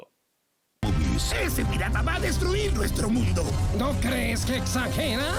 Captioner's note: speaking in Spanish